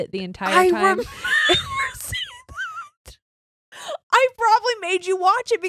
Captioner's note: laughing